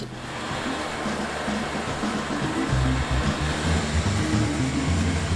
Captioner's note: winch rumbles